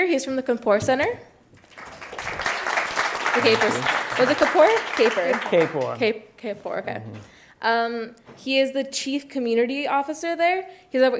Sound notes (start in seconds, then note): 1.6 clapping